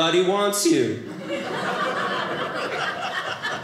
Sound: audience laughing

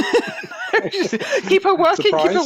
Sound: laughter

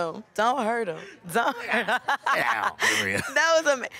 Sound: laughing

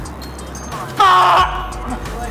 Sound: in Scottish

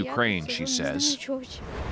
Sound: speaking Foreign Language

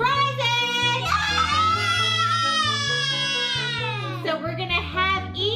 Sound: kids cheering

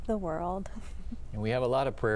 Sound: laughter

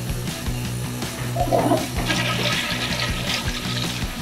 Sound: toilet flush

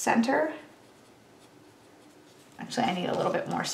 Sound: pen scribbles

